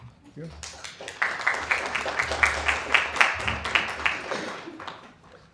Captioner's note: applause